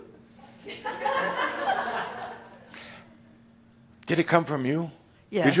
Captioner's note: more chuckles